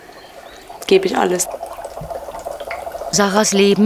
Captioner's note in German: Blubbern